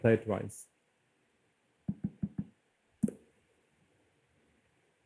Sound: light tapping

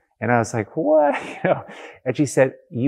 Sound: laughs

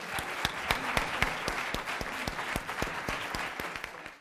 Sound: applause

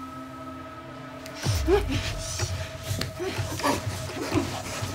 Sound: grunting

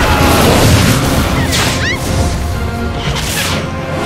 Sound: magic zapping

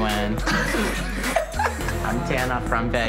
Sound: laughing

